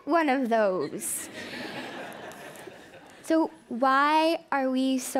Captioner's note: laughing